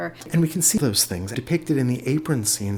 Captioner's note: voiceover